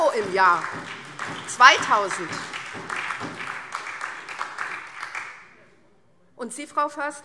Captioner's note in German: Beifall SPD